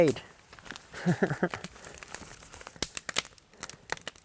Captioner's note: laughing